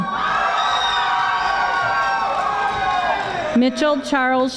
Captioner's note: audience applauding